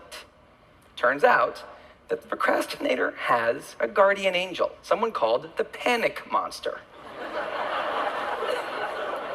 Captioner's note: laughter